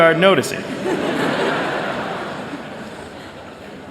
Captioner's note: laughter